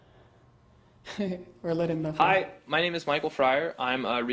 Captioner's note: laugh